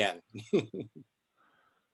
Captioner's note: laughing